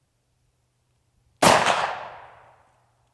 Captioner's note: gun shooting